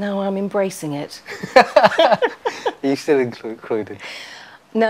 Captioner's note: laughs